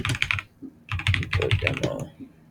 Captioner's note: typing